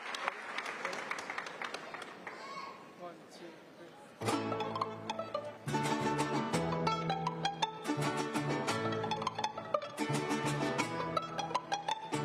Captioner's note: applause